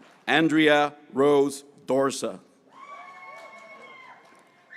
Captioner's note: graduates cheering